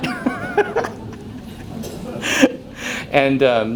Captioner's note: laughs